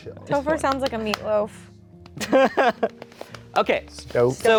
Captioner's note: laughing